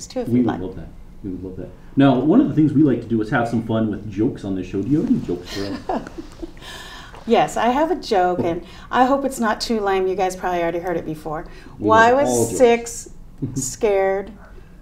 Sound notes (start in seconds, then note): 5.0 chuckling